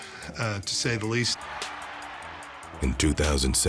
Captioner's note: crowd cheering